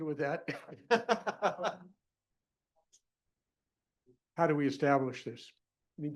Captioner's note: laughter